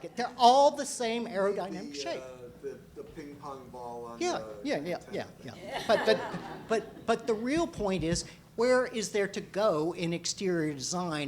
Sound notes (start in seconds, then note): 2.4 voiceover